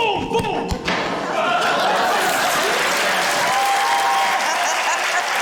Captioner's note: thud!; laughter, cheering, applause